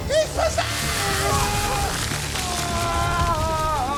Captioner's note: Jaime moaning